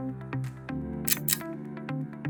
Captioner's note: click